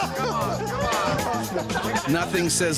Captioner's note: crowd